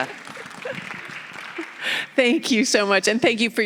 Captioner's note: audience applauding